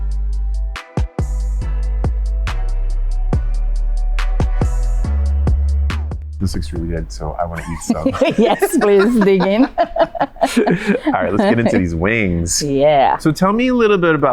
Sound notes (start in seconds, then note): 0.1 chilled music; 7.4 laughs